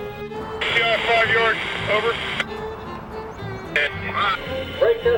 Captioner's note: voiceover